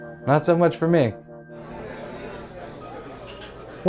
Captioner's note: restaurant ambience